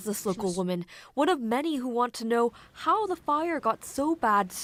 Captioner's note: speaking alternate language